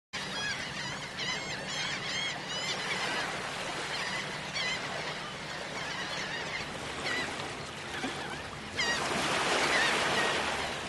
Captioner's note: surf; seagulls cawing